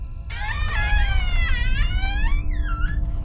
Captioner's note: door creaks